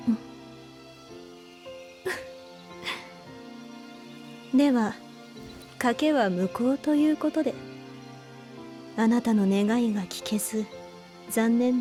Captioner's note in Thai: หัวเราะ